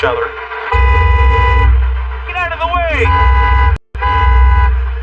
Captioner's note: honks horn